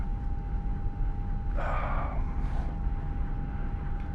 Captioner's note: sighs